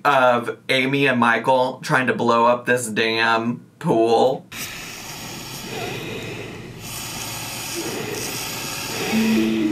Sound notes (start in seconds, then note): 4.5 blowing